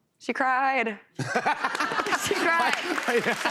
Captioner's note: laughter